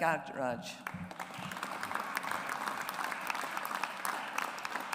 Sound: audience applauds

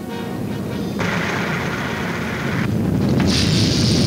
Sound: rattling

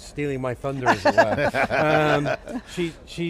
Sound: laughing

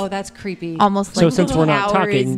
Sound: makes sounds like ice cracking

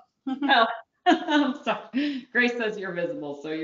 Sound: laughing

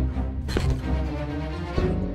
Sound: furniture squeaking

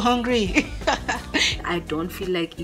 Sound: laughs

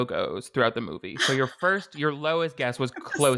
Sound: gasps and laughs

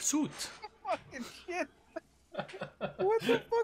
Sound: laughs

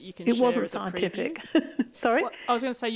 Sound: laughs

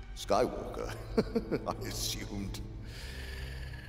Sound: chuckling

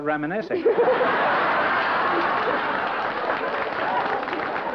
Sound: laughter

